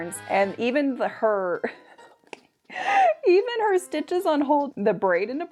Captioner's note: laughs